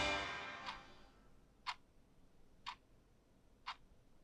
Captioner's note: clock ticking